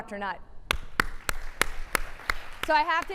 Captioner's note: applauding